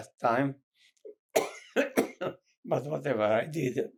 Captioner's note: coughing